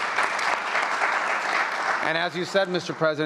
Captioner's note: applause